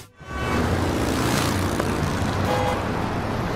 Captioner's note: cars honk